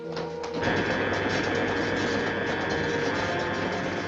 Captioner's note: machine whirring